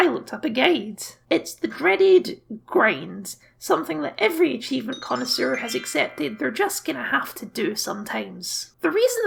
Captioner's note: sparkle Noises